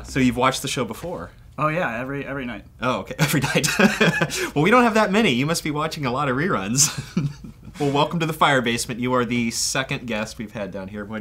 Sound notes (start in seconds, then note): 3.3 laughing